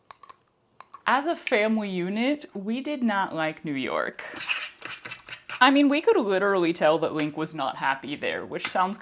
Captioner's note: good licky noises; scraping